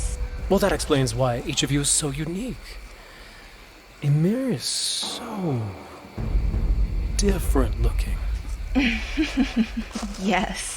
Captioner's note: chuckles